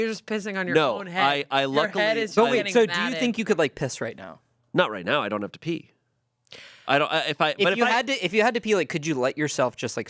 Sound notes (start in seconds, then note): none